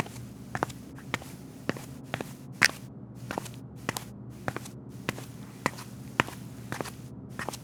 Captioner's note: footsteps